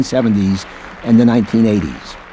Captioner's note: applause